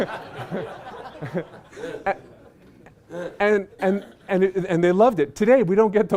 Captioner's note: laughter